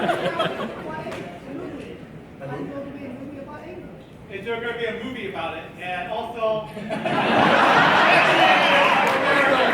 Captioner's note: laughter